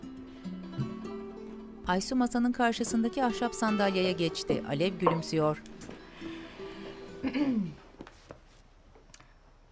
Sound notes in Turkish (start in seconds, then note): 7.2 Boğaz temizleme sesi